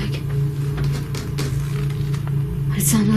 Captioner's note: creaking